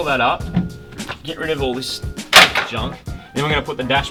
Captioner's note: clatters